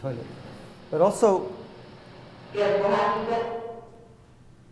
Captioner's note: muffled voice speaking on video